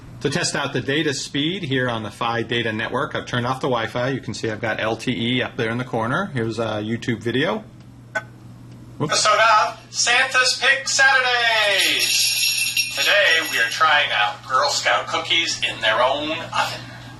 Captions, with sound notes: To test out the data speed here on the Fi data network. I've turned off the wi-fi. You can see I've got LTE up there in the corner. Here's a YouTube video. Santa's pick Saturday. (ringing bells) Today we are trying out Girl Scout Cookies in their own oven